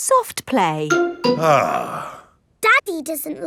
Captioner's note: sighs